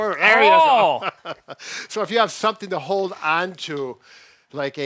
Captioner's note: chuckling